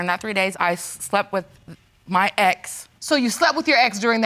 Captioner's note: stammers